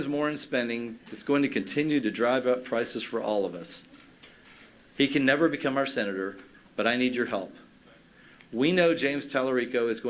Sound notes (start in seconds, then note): none